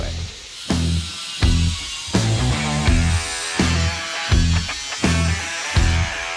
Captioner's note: grinder Buzzing; hard Rock Music Continues